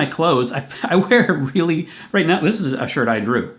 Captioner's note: chuckling